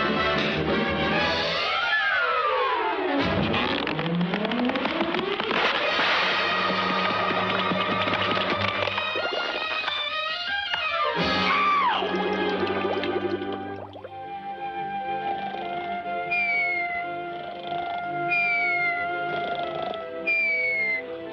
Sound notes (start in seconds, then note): 3.4 dirt creaking; 6.4 pillar rattling; 13.1 water bubbling; 14.4 gentle lullaby music; 16.1 Petey snoring; 16.1 beak whistling